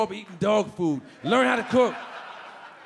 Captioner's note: audience laughing